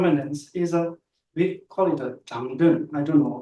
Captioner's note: tibetan